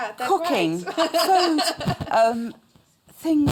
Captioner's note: laughter